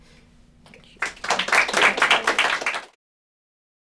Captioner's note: applause